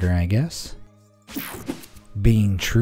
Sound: image whooshing

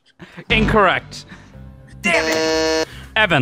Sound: buzzes

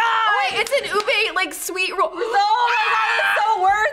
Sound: screams

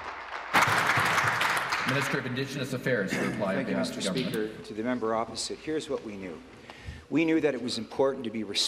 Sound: applause

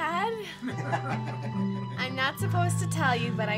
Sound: family laughing

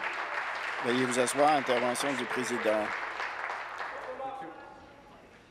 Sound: applause

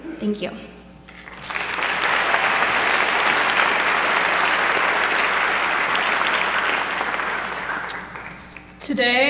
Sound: applause

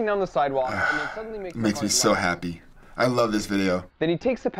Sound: groaning

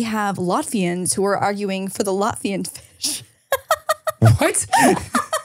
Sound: laughs

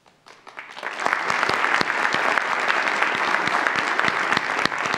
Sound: audience applauds

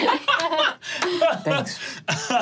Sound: laughing

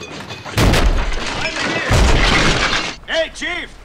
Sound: banging

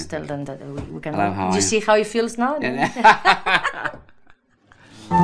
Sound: both laugh

